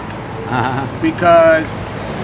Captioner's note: laughs